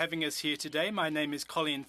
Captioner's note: speaking French